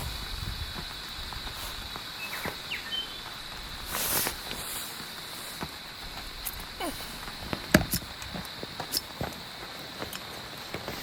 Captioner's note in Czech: zvuky deště